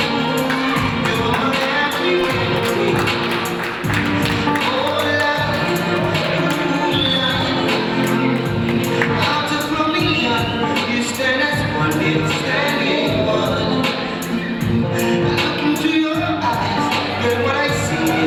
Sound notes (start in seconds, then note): 8.2 audience applauding